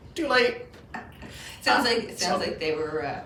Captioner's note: laughing